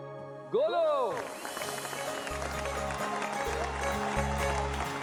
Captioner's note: audience cheering, applauding